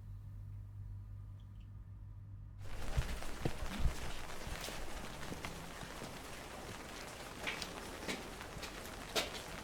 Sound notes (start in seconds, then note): 4.4 rain pattering